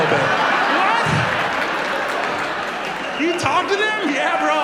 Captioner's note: audience laughs